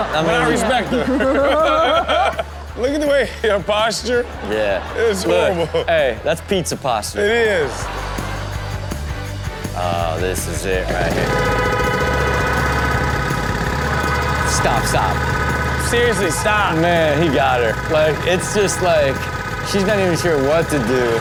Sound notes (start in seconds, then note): 1.6 co-hosts laughing; 11.8 car horn beeps rapidly